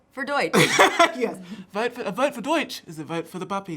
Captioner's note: laughing